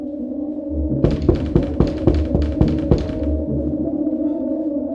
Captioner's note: knocking on door